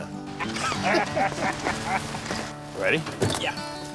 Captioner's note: laughing